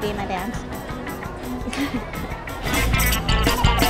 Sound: laughing; upbeat music

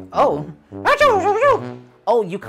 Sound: speaking elvish

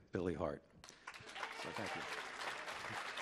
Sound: audience applauding

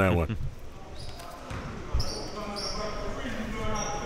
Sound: laughing

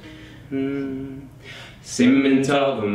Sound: humming a note

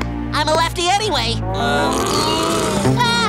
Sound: grunting

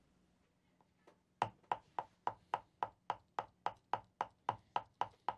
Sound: hammer tapping

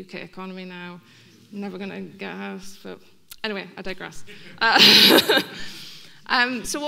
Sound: laughing

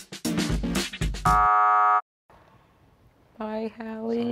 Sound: buzzer sounds

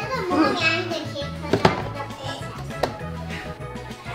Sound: baby babbles

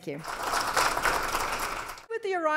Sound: applause

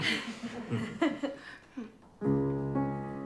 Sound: all chuckling

